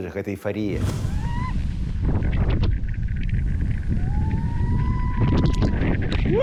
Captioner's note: wind blowing, excited shouting